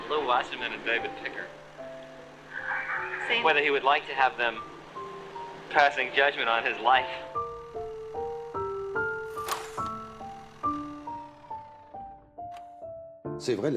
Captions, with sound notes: of Lew Wasserman and David Picker. Whether he would have liked to have them passing judgment on his life. [film camera rolling]